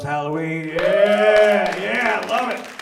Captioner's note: audience cheers and applauds